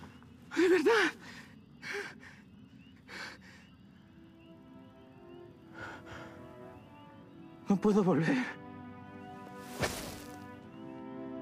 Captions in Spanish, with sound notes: De verdad. [Laín jadeando] No puedo volver.